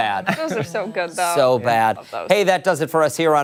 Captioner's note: laughter